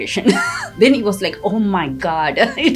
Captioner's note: laughs